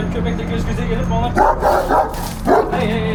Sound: barking sounds

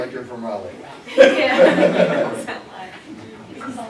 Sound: laughter

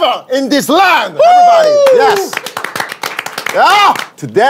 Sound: sound of clapping

